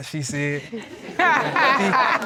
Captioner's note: all laughing